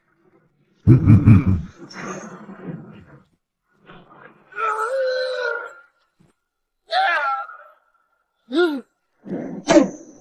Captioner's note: combat grunts